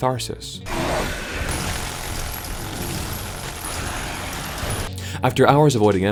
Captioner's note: minigun fires a stream of bullets